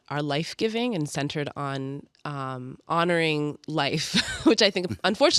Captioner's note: chuckles